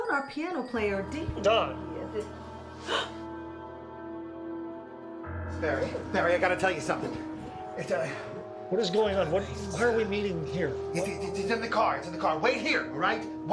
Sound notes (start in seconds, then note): 0.8 door bell jingles; 1.8 dramatic music; 2.8 Molly gasps